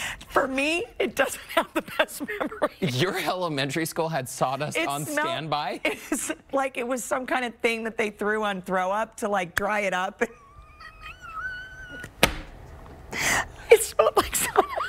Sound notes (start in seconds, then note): 3.5 laughter